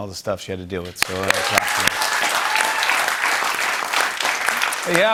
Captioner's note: cheers and applause